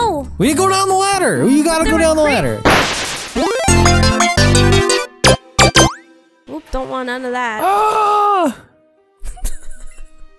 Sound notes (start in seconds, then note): 2.6 crash sound effect; 9.2 laughing